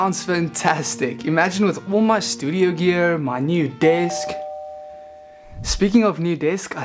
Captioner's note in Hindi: दरवाजे की घंटी बजती है